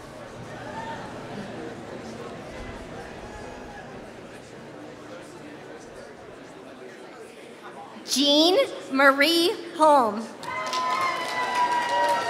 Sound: applause

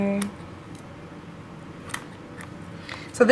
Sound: clipping sounds

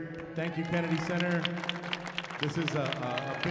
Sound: audience applauding

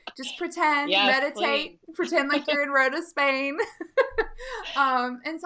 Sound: laughing

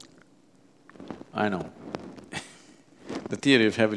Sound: laughs

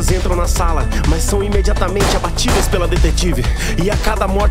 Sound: gunshot noise

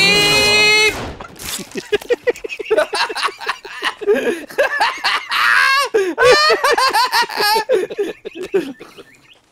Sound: hysterical group laughter

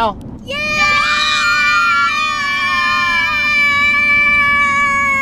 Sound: collective cheering

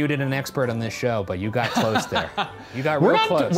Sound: laughing

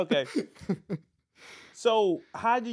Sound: laughing

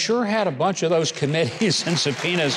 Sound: audience applauding

